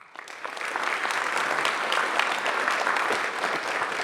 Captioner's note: audience applauds